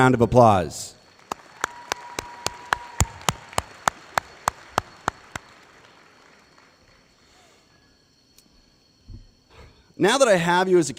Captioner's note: applause